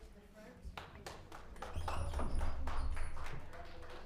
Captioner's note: applauds